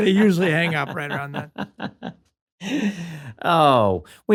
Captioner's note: laughter